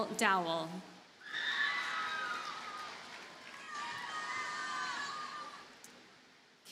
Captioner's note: audience cheers and applauds